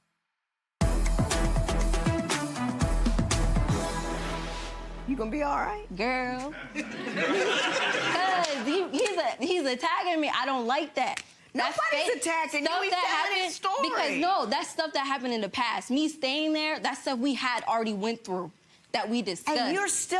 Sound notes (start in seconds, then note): 0.8 dramatic music; 6.5 audience laughing